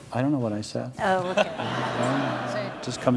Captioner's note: audience laughs